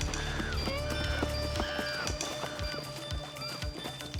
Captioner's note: animals squealing